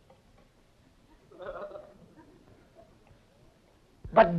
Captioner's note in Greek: γέλια